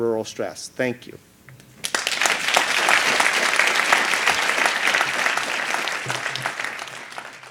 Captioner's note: applause